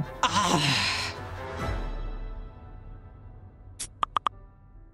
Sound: growling in frustration

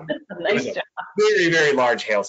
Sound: laughs

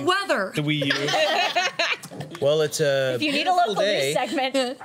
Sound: laughter

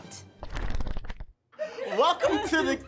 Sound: pages flipping; laughs

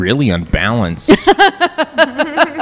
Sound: laughs

